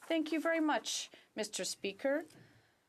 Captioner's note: speaking Alternate Language